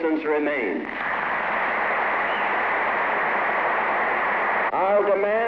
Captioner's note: applause